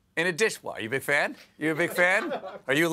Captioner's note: laughter